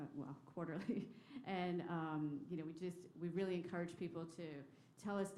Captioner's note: laughter